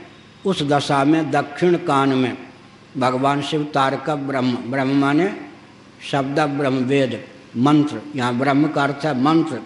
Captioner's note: preaches